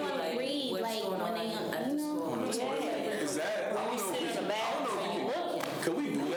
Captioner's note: students chatter